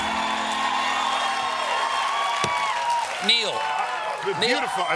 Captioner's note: cheers and applause